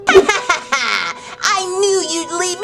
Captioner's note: evil laugh